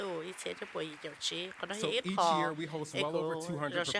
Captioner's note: applause